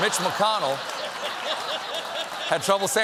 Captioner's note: laughter